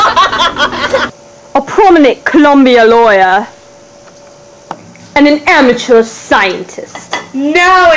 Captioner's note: laughter